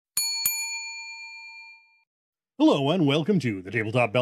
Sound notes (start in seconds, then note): 0.1 bell dings